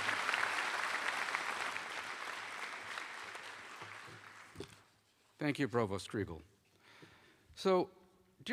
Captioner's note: applause